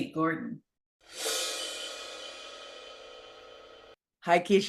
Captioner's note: dramatic ringing